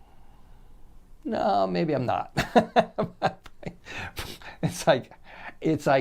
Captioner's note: laughing loudly